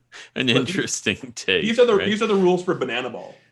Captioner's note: chuckling